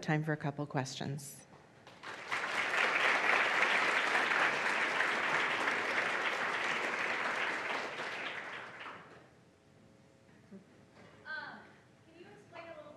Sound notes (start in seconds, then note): 1.8 applause